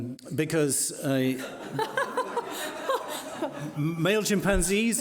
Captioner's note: laughing